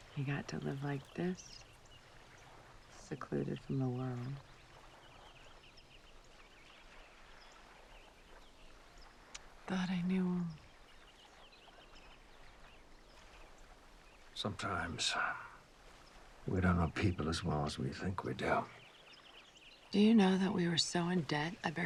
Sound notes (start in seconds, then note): none